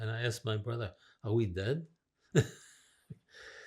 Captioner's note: laughing